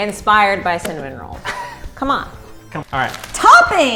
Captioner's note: laughs